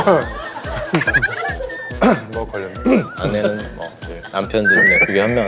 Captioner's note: laughs